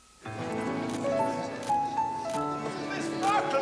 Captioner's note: none